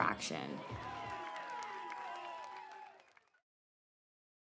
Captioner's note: applause